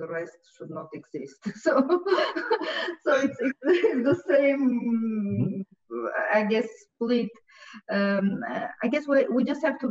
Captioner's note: laughs